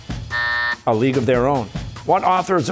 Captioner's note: buzzer